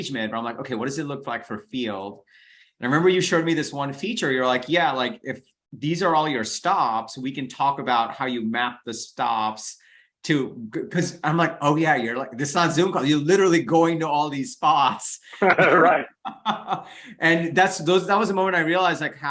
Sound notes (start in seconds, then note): 15.2 both laughing